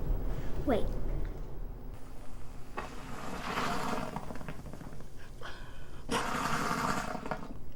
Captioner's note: volcano sputtering